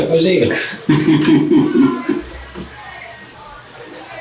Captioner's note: laughing